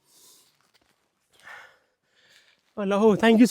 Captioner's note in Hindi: नाक से की जाने वाली आवाज़